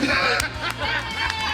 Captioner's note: cheering